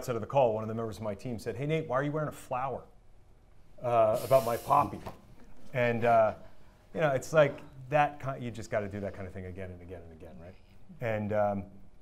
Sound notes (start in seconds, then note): none